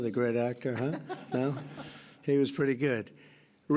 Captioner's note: laughter